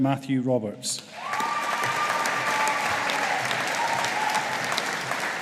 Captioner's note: audience applauding